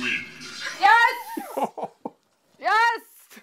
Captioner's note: laughs